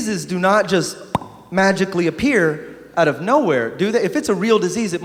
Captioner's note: pop